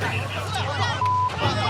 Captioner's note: yelling; beep